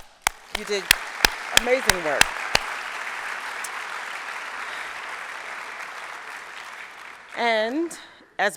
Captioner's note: applause